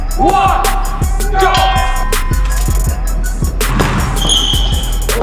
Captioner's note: bell ringing